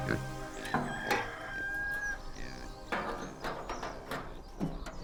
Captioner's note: rooster crowing